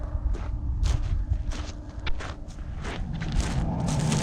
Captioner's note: footsteps